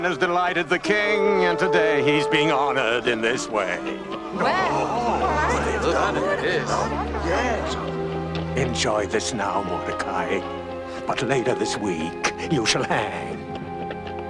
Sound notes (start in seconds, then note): 3.8 people gasping in awe